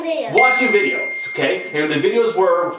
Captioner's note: ding